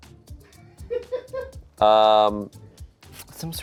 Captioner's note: crew laughs